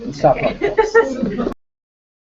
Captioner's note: laugh